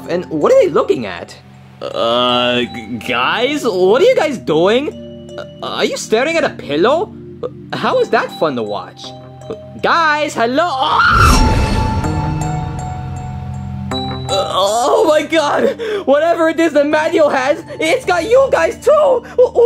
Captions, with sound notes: And what are they looking at? Guys? What are you guys doing? Are you staring at a pillow? How is that fun to watch? Guys? Hello? (yells) (suspenseful music) Oh my God. Whatever it is that Mario has, it's got you guys, too.